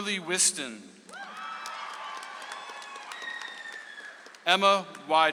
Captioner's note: audience applauds